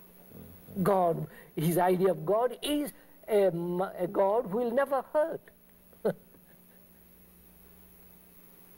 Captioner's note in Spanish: Risas